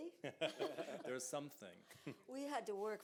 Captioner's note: laughs; chuckles